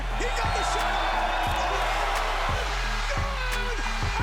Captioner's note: crowd roaring